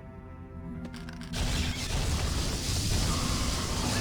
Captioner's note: laser blasts